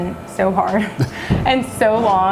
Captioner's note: chuckles lightly